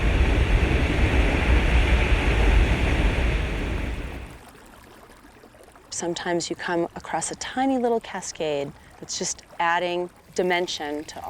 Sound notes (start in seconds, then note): 0.1 water cracking on rocks; 4.2 burbling brook